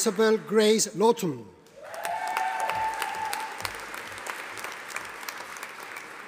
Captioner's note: audience applauding